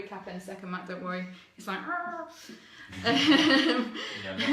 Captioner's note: laughs